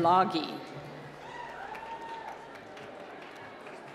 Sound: applause

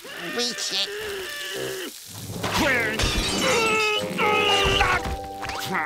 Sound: groaning

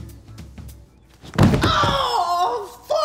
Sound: loud thud; yelling

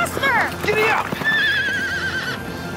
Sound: neighing

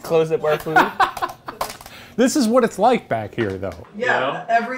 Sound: laughing

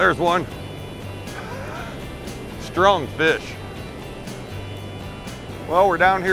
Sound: laughing

